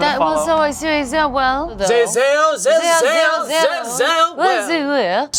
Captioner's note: both babbling goofily